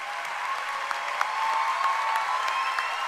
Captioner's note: cheering and applause